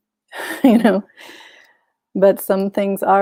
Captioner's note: chuckles